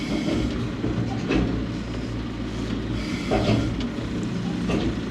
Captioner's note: machinery rumbling